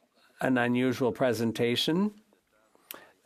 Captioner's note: speaking French